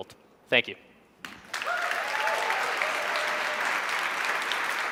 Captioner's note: audience claps